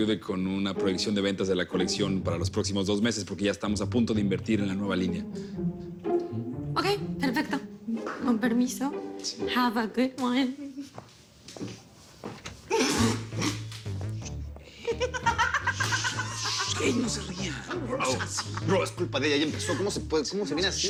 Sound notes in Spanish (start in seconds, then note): 12.7 Risa contenida; 14.8 Carcajadas